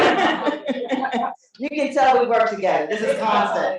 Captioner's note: laughter